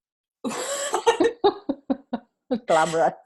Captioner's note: both laughing